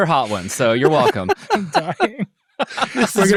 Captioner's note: laughing